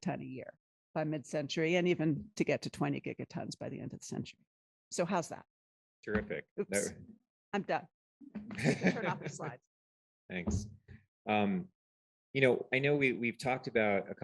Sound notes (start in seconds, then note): 8.5 laughter